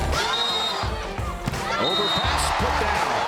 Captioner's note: cheering; whistle